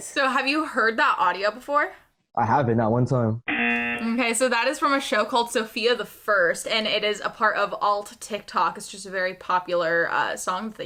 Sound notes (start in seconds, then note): 3.4 buzzer